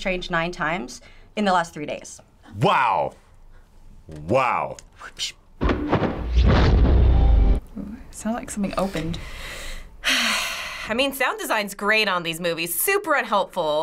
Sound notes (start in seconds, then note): 4.3 imitates whipping sound effect; 5.5 flapping; 5.8 loud whoosh; 9.4 sighs